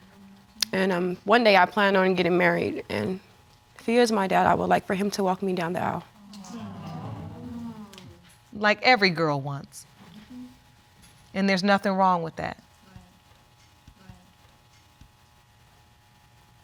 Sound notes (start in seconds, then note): 6.4 audience exclaiming